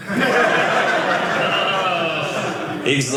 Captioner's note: audience laughing